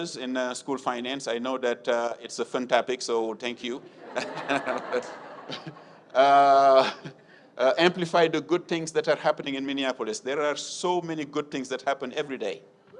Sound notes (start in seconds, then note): 3.7 audience laughs